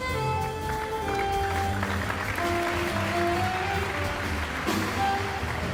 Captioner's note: audience applauding